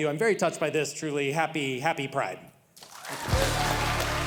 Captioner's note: audience cheering